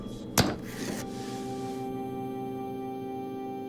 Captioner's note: hammer thuds; somber music